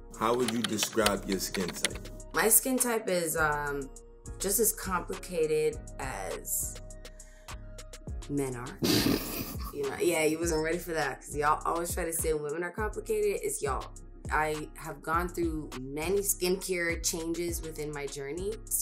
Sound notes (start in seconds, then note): 8.8 laughs